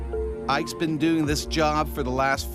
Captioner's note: voiceover